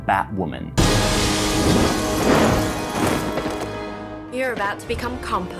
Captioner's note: crushing noises